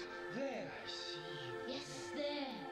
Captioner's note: ghostly Voice